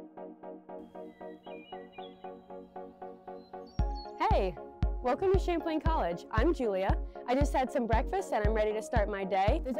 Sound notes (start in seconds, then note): 0.9 birds chirping